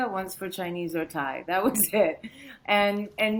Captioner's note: chuckles